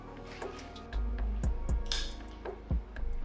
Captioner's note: none